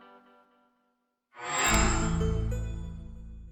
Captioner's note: microsoft sound